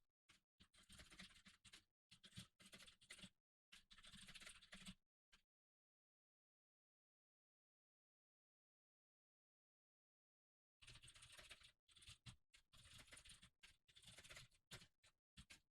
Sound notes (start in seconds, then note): 3.7 typing sounds